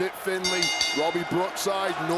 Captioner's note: bell rings